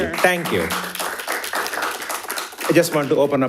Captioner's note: audience applauding